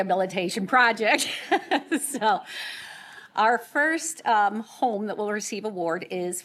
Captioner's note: laughter